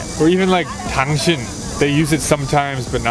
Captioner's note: speaking in Korean